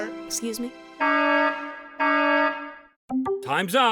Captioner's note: alarm blares